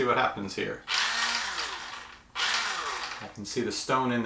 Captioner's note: sharpener noise